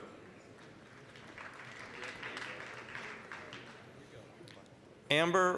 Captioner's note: applause